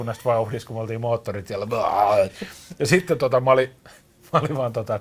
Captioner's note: sound of vomiting at speed